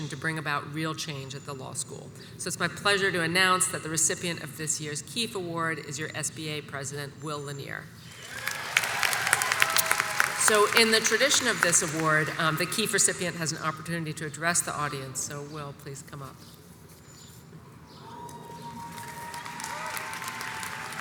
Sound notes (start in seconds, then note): 8.1 crowd cheers and applauds; 18.0 audience cheers and applauds